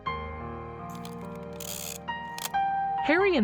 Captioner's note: shutter clicks